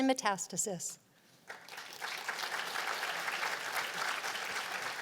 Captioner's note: applause